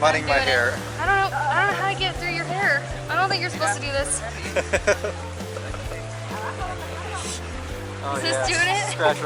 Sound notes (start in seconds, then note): 4.0 laughing